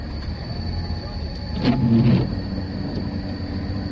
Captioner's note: wipers